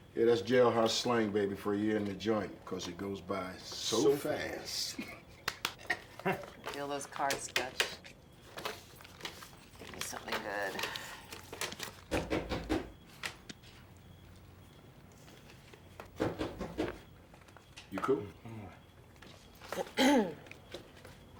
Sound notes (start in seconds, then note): 12.1 knocking at door; 19.6 clears throat